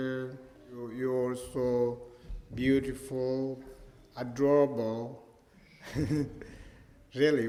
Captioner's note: laughs